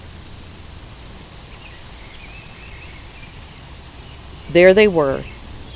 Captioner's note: sound of wind blowing through trees